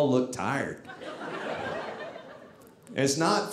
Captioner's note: audience laughing